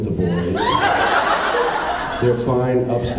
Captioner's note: laughs